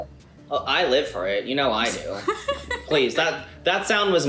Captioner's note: laughs